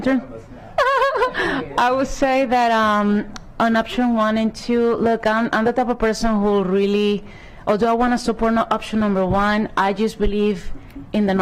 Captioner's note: laughter